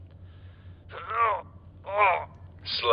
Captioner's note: grunts